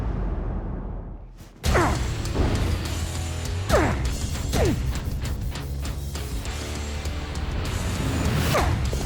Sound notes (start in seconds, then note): 1.7 grunting; 4.6 dramatic heavy rock music playing